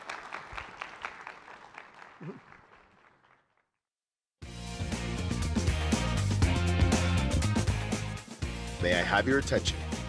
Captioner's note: applause